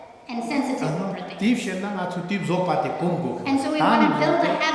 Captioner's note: speaking tibetan